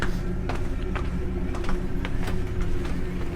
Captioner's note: descending footsteps